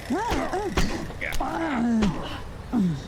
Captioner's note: grunts